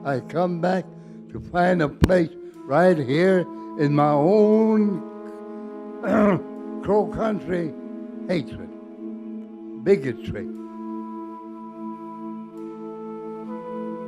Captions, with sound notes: I come back to find a place right here in my own (clears throat) Crow Country hatred, bigotry. (melancholic music)